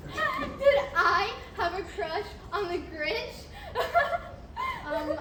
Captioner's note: laughing